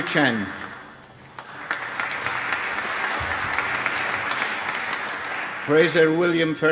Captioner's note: applause